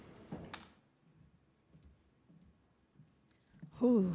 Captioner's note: footsteps approaching